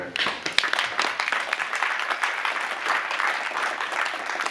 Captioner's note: applause